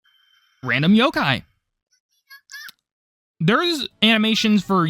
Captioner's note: searching sound